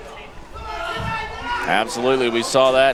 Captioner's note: crowd shouting